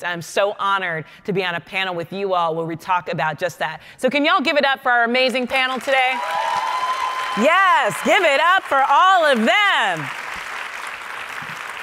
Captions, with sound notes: and I'm so honored to be on a panel with you all where we talk about just that. So can y'all give it up for our amazing panel today? (audience clapping) (audience cheering) Yes, give it up for all of them.